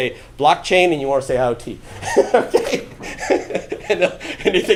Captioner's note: laughing